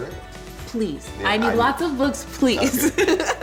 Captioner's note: laughs